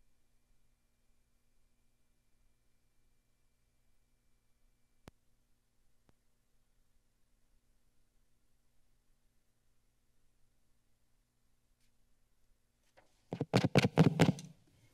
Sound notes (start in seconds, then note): 0.0 silence; 13.3 mic tapping; 14.4 silence